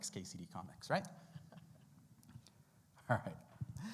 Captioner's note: laughs